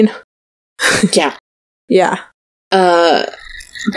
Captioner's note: laughs